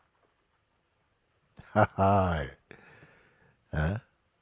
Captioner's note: Mooji lacht